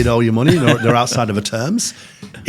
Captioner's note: hosts chuckling